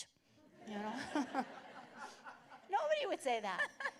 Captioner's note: laughter